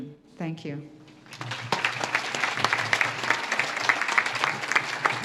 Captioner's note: audience claps